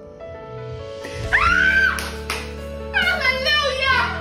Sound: screaming

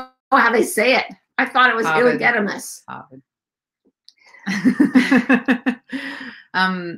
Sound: laughing

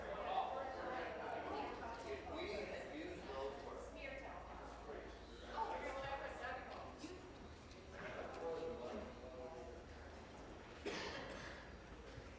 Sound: conversation din

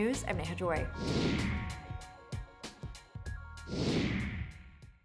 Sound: whooshing sound

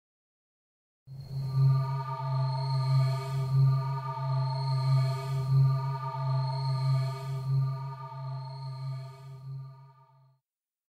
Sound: sound of scary castle

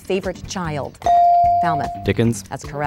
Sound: dinging

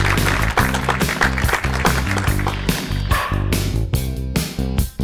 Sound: audience clapping; upbeat music

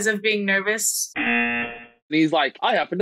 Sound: buzzer rings

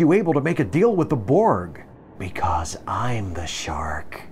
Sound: Janeway, whispering menacingly

